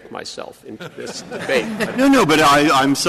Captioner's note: laughter